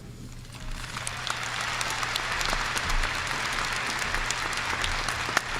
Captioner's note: audience applauding